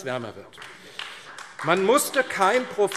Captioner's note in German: Beifall AfD